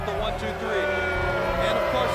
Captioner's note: attendees booing